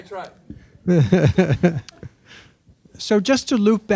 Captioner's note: laughing